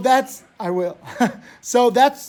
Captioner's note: Tim laughs